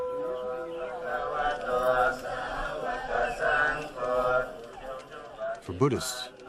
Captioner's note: chanting in foreign language